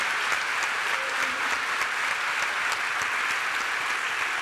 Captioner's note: applause